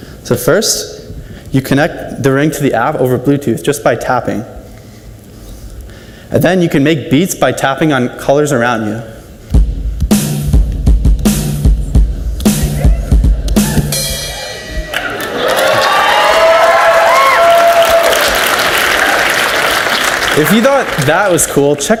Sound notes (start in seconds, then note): 9.5 upbeat percussion music; 14.4 audience cheers and applauds